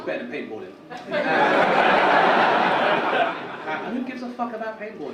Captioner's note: audience laugh